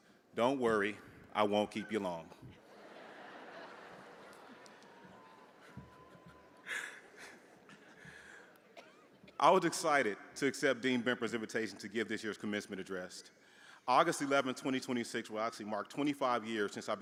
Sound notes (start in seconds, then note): 2.6 audience laughing